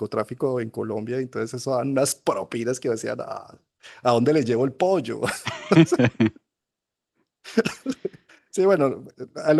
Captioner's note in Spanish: risas